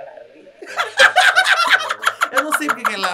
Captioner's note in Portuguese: riem